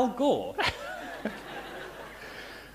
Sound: laughter

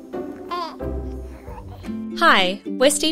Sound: giggles

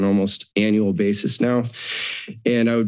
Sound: inhales

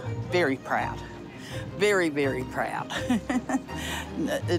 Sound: chuckles

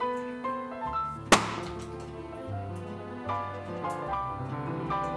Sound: balloons pops

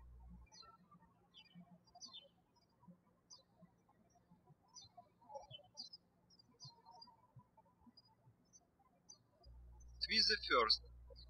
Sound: birds chirping

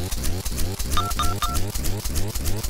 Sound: holy beeps

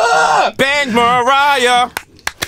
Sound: chanting; clapping

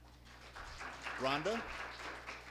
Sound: applause

